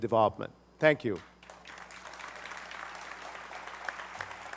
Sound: applause

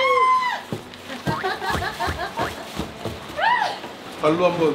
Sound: Hong-jo laughs seeing Sae-byul running

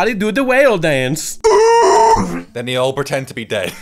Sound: howls

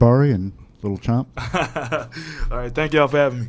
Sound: laughs

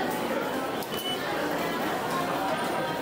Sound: beeps

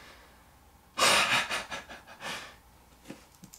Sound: laughs

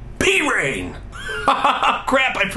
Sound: laughs

